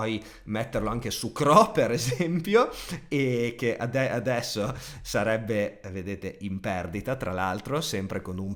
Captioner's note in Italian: risate